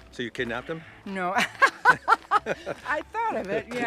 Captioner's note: laughing